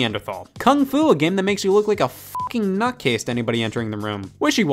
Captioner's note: beep